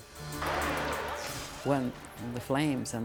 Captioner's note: electricity crackles